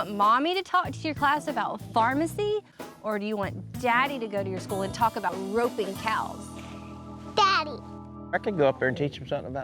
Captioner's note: none